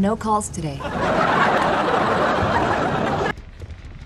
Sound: canned audience laughter

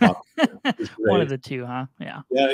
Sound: laughs

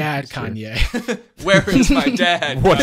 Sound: all laugh

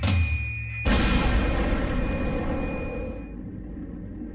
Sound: explosion

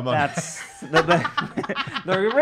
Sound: laughing

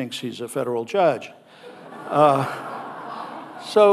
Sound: audience laughing

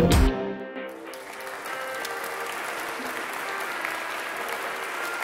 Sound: audience applauds

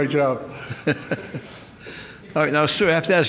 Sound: laughing

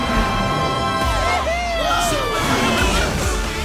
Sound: cheering

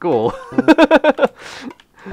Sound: laughter

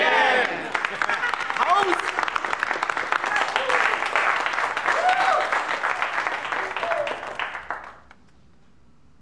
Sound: applause

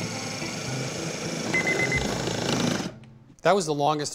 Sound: timer beeping

